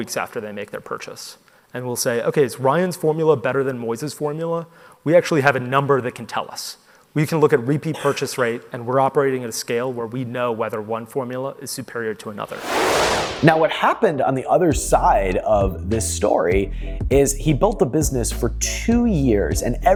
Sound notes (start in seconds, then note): 12.4 whooshing